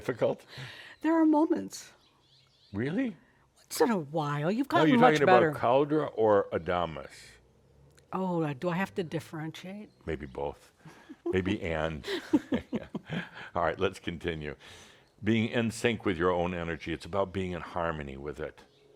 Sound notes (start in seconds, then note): 0.0 chuckles; 10.8 they chuckle; 12.0 giggles